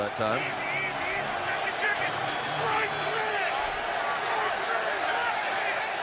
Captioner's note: shouting